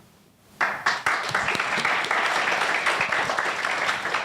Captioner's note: audience applauding